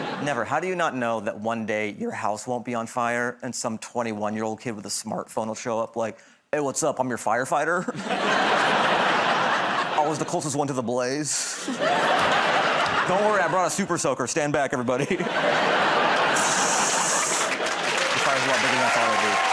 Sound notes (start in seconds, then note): 16.4 water hissing